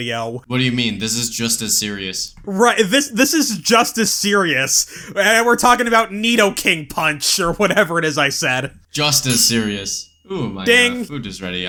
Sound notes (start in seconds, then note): 9.1 ding!